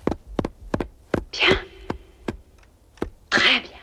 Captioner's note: banging